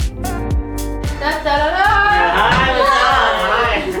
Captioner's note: imitating fanfare